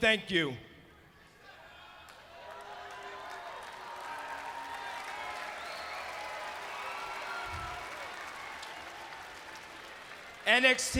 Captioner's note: crowd cheering